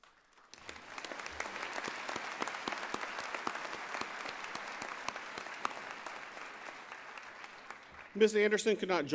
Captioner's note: applause